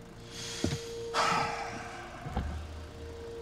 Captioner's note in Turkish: Nefes sesi